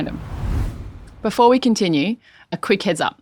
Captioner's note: air whooshing